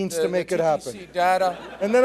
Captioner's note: laughing